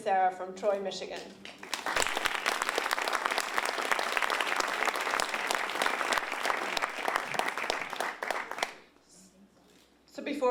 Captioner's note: applause